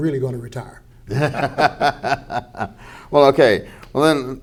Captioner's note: laughter